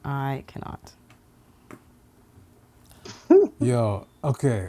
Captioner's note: laughing